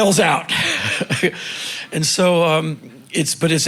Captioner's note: chuckling